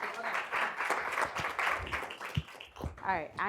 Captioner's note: audience applauding